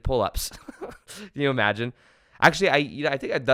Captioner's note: giggles